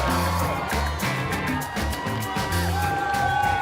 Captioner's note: cheering